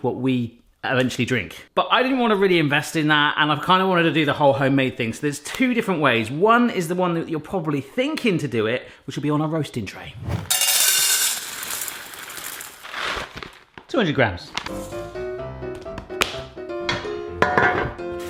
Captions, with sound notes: What we eventually drink. But I didn't really wanna invest in that, and I kinda wanted to do the whole homemade thing. So there's two different ways. One is the one that you're probably thinking to do it, which will be on a roasting tray. (beans clattering) 200 grammes. (ragtime piano music)